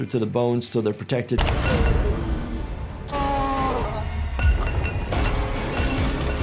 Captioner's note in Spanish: ruido de metal, hombre gimiendo